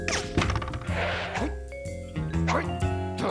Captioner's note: grumbles